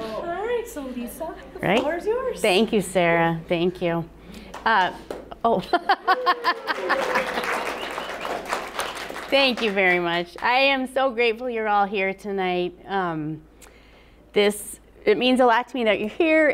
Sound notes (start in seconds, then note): 6.3 applause